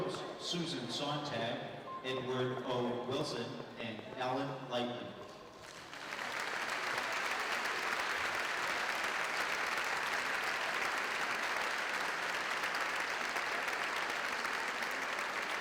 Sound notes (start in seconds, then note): 6.7 applause